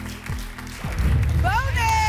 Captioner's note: boom